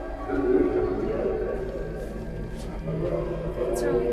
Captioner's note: distorted speaking